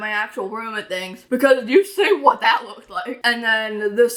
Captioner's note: laughs